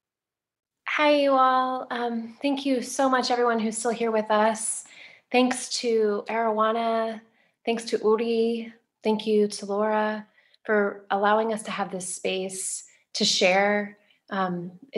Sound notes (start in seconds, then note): none